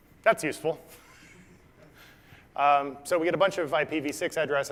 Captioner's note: laugh